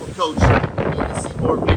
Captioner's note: wind rustling